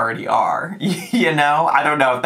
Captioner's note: chuckles